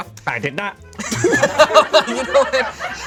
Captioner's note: group laughs